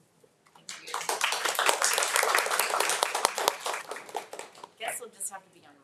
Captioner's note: attendees and trustees applauding